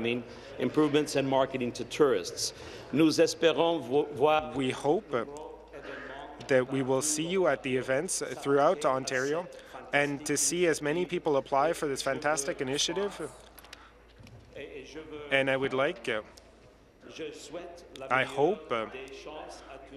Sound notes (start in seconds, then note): 8.2 speaking in French